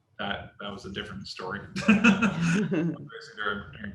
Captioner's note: laughs